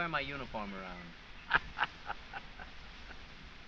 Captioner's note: laughs